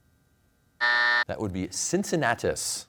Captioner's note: buzzer sounds